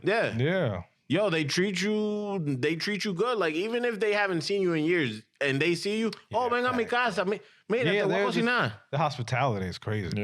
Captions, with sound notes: Yeah. Yeah. Yo, they treat you good. Like even if they haven't seen you in years and they see you, (Speaking In Foreign Language) The hospitality is crazy.